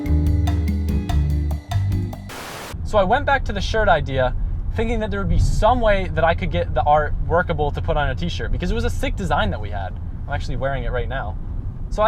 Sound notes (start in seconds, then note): 2.2 white noise